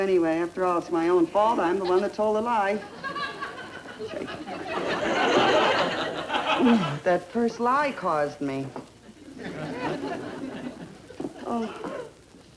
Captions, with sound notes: after all its my own fault I'm the one that told the lie. (audience laughter) - That first lie caused me